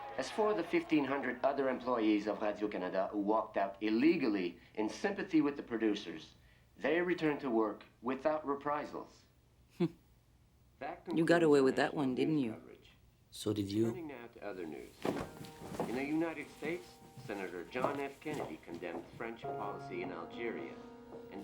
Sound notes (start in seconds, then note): 10.2 scoffs